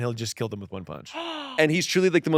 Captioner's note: gasps